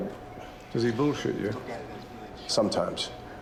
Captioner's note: voiceover